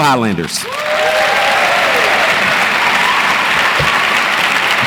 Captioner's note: audience applauds and cheers